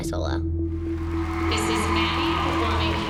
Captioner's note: cheering and applause